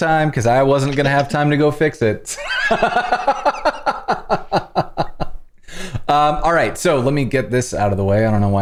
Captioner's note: laughter